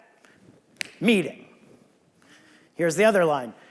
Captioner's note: snaps fingers